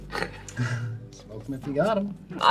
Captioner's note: all laugh